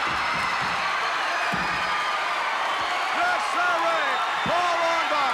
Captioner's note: crowd cheering